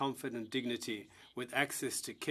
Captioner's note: speaking French